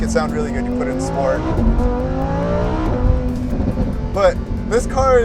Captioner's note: exhaust pops and bangs